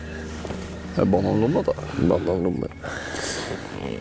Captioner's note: giggles